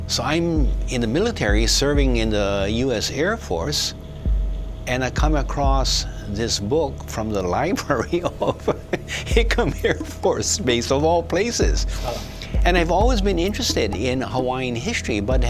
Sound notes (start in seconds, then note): 7.5 laughing